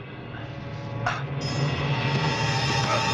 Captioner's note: grunting